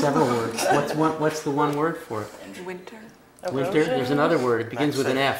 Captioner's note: laugh